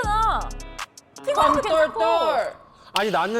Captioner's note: sound effect of “you’re next”